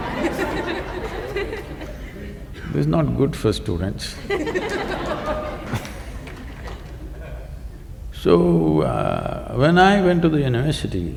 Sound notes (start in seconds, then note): 0.0 laughter; 4.1 laughter